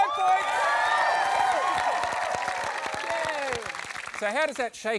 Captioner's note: applause